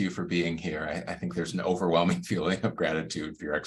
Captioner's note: laughs